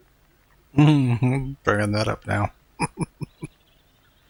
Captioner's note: chuckling